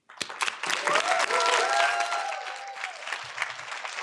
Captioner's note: audience applauding